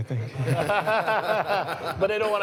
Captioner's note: laughter